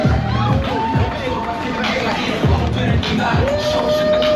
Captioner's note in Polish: Aplauz